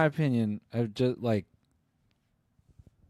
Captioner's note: stutters